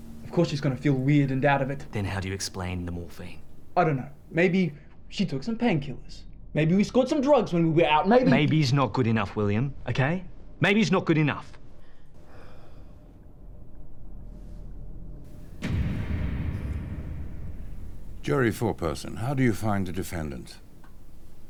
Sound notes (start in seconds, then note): 15.4 door slamming